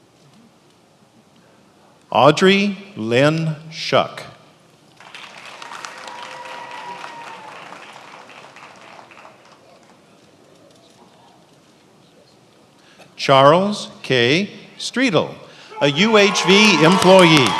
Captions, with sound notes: Audrey Lynn Shuck. (attendees applauding) Charles K. Striedel, a UHV employee.